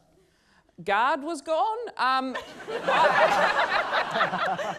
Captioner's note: laughter